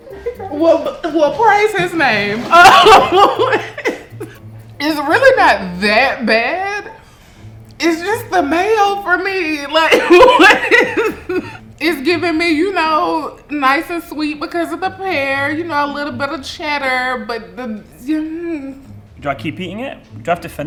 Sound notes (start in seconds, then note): 2.2 laughs; 9.8 laughing